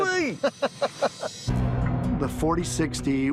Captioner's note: laughing